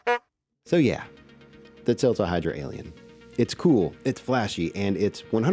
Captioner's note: car Horn Honking